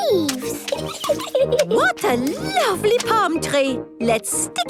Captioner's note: giggles